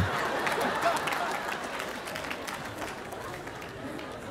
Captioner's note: audience laughing